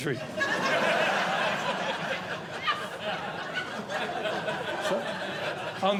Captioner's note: audience Laughing